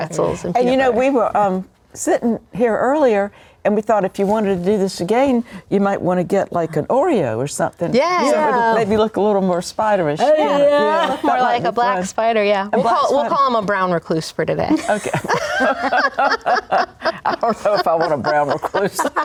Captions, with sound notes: -and you know, we were sitting here earlier, and we thought if you wanted to do this again, you might want to get, like, an Oreo or something. Katie and Yeah. Maybe look a little more spider-ish. Yeah. Look more like a brown spider. Yeah. We'll call him a brown recluse for today. Okay. (laughing) I don't know if I want a brown recluse.